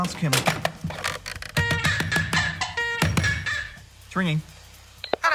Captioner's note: squawking